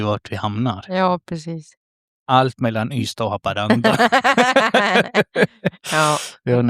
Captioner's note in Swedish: skratt